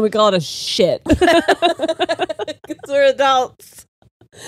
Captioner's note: all laughing